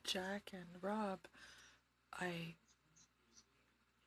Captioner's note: speaking French